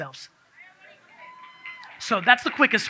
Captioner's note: audience cheers